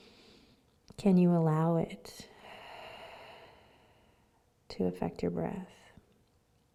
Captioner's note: exhales